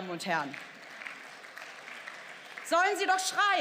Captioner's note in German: Beifall